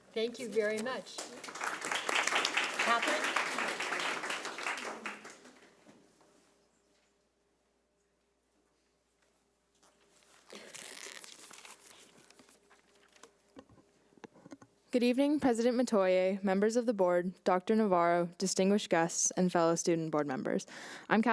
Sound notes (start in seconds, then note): 0.8 audience clapping